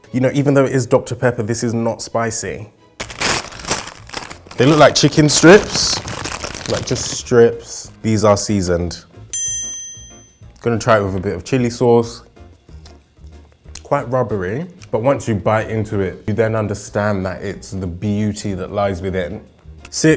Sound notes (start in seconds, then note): 3.0 bag tearing; 9.3 bell ringing